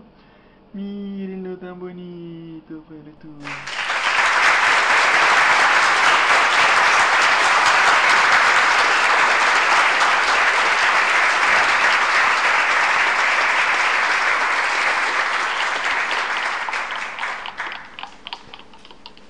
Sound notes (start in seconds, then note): 3.4 applause